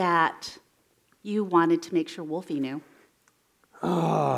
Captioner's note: sighs